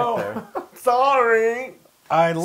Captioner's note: laugh